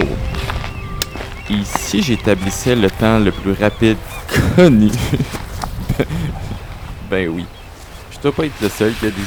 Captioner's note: laughing